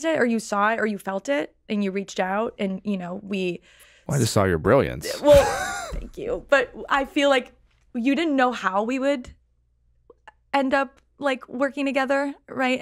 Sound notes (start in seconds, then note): 5.0 laughs